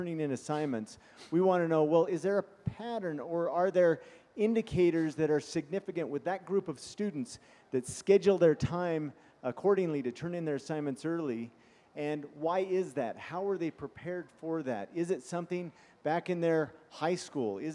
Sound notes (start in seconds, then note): 0.0 sniffing; 1.3 sniffing